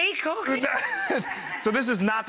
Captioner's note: everyone laughs